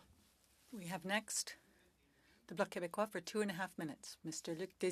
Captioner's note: speaking French